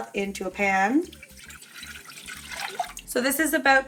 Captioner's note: liquid pouring